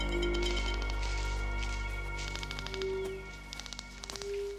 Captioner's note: detectors clicking